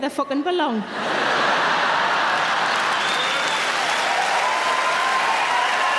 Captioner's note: audience laughing and applauding